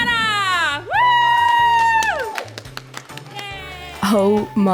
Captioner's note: cheering